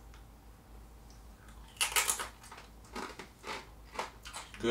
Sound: crunching

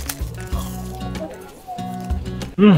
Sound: crunch

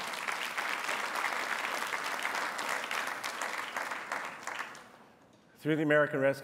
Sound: applause

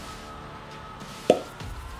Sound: mouth pop

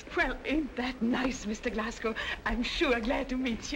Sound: none

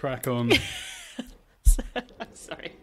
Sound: laughs

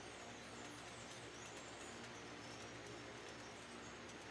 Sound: fan spinning

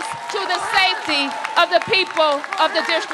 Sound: applause

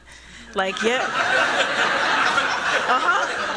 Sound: laughter

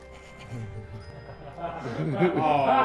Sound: cameraman laughing

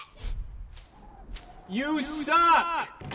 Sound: wind whistling

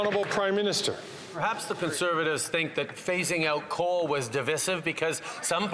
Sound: applause

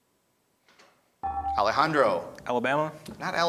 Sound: ding

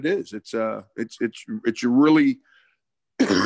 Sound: coughs

